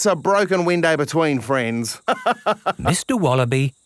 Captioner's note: laughs